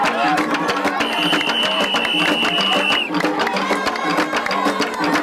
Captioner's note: whistle blowing